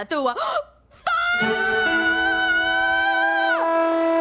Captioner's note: gasps!